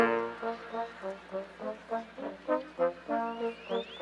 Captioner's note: none